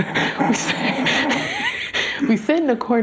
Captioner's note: chortle